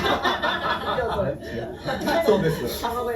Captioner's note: laughs